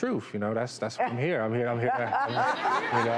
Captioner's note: laughing